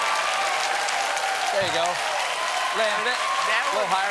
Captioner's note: cheers and applause